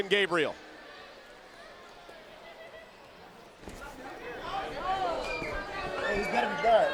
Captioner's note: crowd chatter